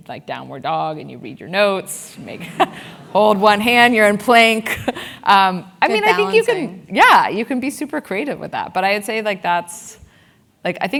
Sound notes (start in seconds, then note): 2.3 laugh